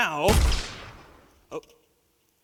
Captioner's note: gun fires